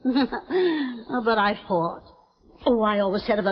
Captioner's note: Veta laughing